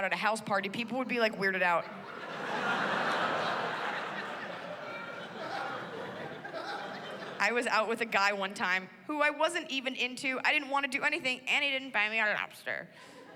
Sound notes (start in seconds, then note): 1.8 laughter